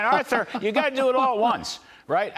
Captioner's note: laughter